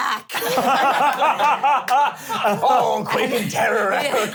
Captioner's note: laughter